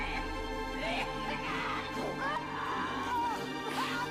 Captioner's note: person screaming